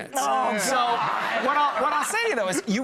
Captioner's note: laughing